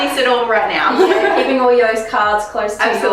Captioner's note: both laughs